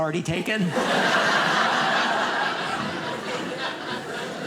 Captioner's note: audience laughing